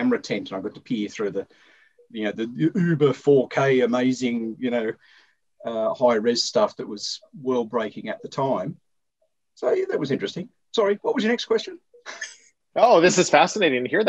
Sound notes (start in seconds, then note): 12.0 laughter